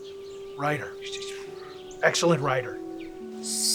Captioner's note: sighs